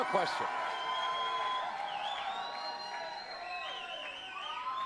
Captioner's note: audience cheering